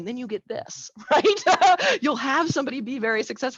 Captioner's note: laughs